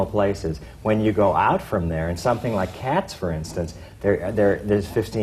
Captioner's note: none